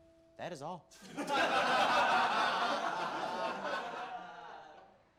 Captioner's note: guys laughing